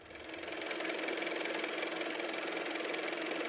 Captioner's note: car motor